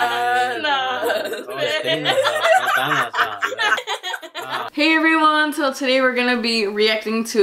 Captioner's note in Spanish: La risa